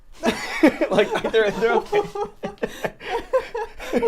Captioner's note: laughs